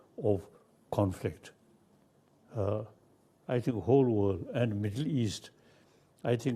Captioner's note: speaks in foreign language